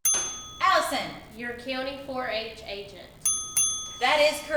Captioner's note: ding Ding